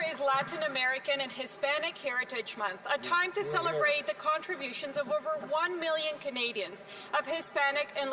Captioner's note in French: voix de l'interprète